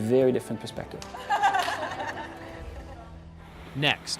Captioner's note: laughter